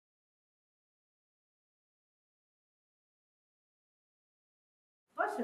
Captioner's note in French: silence